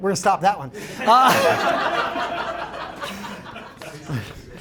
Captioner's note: laughter